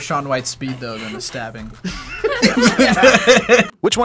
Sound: group laughs

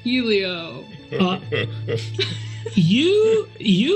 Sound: laugh

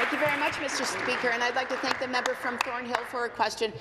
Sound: applause

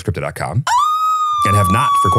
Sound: squeals

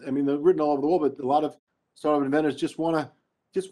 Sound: speaking faintly

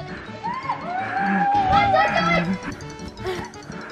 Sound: screaming

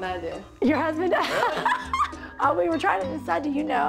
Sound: laughter

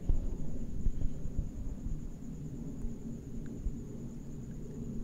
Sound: plane noise

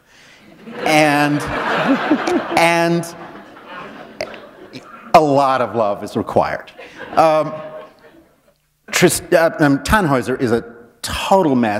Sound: laughter

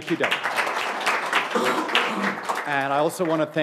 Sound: audience applauding

